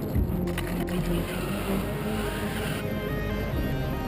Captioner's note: wind whistling